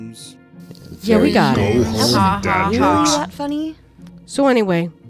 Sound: collective grumbling

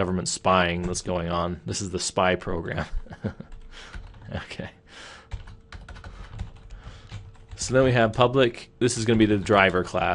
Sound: laughing

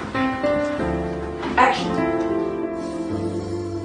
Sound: imitates electricity buzzing

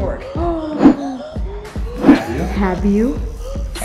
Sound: gasps

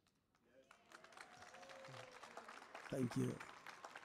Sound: applause

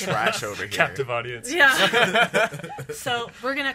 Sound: laughs

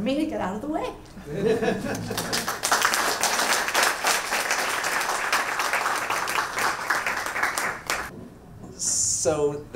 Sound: audience laughing and clapping

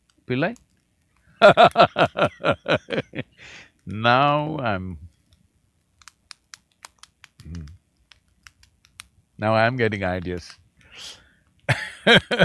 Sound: laughs; laughs

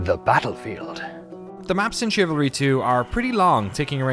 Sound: speaking normally

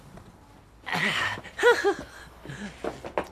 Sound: grunts, giggles

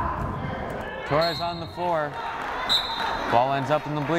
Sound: whistle blows

